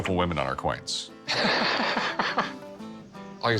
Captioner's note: laughs